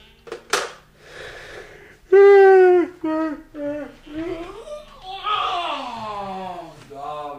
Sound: yawn

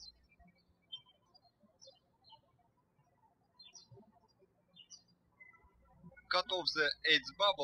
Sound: birds chirping

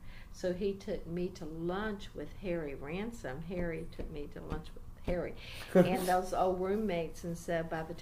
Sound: laughs

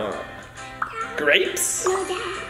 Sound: pop

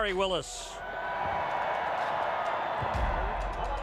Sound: crowd cheers

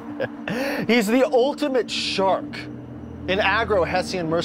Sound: chuckles

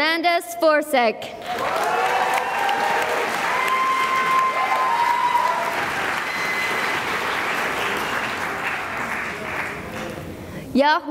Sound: cheering and applause

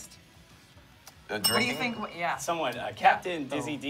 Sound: bell dings

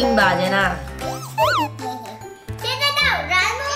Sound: chuckling

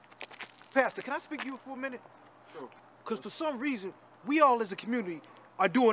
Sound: none

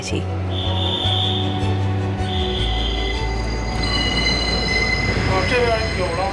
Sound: gentle music; train screeching

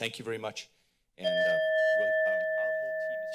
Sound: ding sound

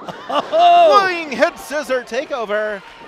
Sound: laughs

